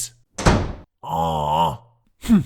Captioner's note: shutting door